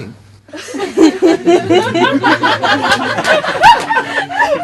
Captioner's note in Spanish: risas